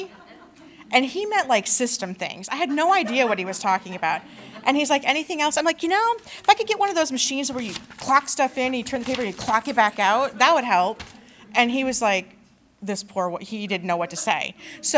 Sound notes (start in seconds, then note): 2.6 laughter